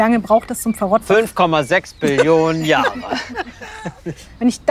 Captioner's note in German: lacht